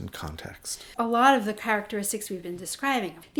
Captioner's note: voiceover